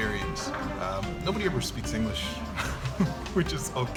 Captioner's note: chuckles